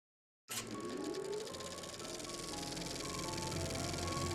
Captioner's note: film projector clicking and whirring; soft dramatic orchestral music